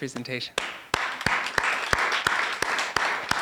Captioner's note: applause